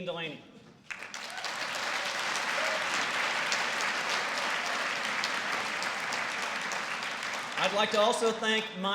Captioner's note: applause